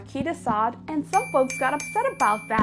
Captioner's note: bell ringing